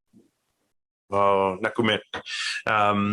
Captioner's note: speaking in foreign language